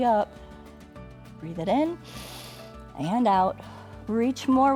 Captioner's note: inhales